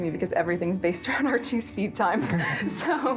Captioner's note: laughing